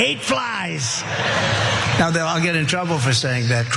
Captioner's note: laugh